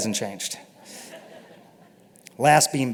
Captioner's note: laughter